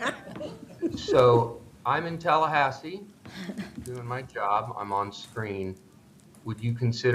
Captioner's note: laughter